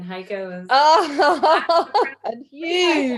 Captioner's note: laughs